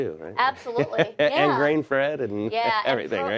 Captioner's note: laughing